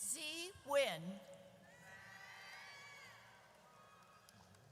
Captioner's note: audience cheers